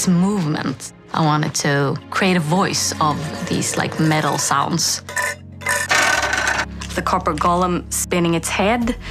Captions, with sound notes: So the personality would have to be in its movements. I wanted to create a voice of these like metal sounds. [Scraping]